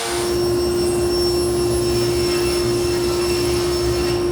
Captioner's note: saw whirring